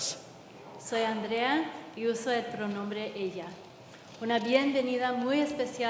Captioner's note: translator speaking in Spanish